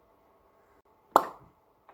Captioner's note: pop